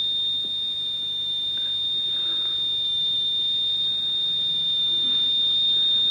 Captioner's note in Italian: segnale acustico fisso